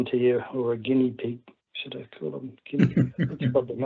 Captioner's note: laughs